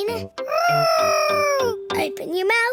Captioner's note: imitating aeroplane